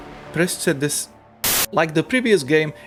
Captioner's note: TVstatic